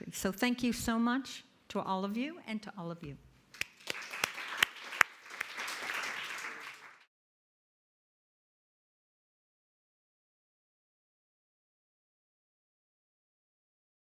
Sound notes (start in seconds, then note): 3.6 audience applauding